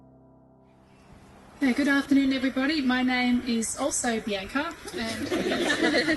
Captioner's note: guests laugh